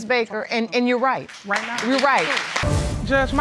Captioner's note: audience applauding